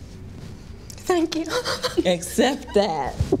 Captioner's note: sobbing